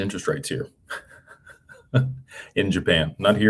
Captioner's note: laughter